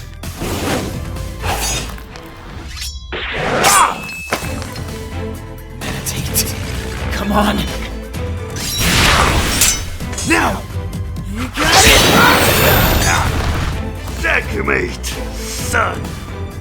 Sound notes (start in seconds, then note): 3.5 grunt